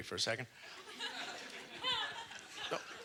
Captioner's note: audience laughter